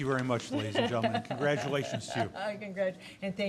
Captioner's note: laughing